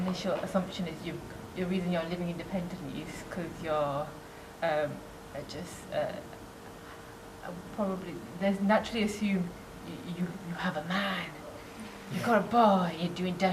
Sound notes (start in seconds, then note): 10.1 whispers